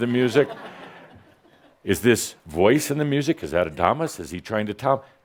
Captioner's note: laughter